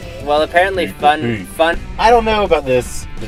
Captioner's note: deep voice